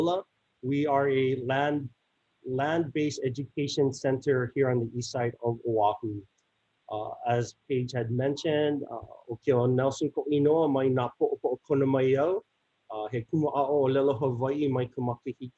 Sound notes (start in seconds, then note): 10.0 continues speaking in native language